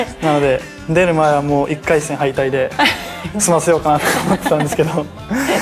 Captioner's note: laughs